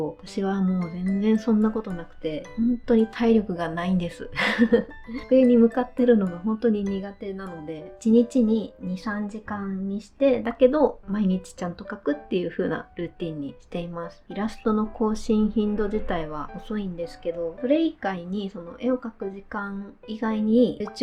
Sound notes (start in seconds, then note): 4.4 laughs